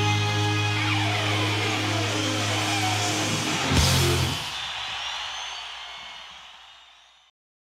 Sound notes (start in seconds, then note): 3.4 crowd cheers